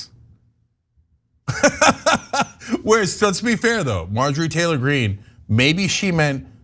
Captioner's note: laugh